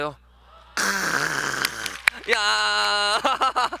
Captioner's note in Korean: 박수 소리